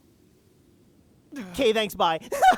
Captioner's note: sigh